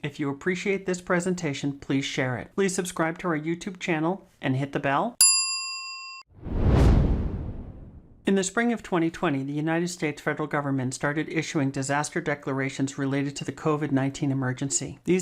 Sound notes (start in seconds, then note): 5.2 bell dings